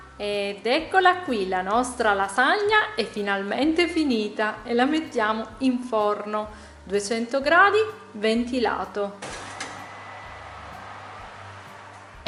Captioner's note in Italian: Applauso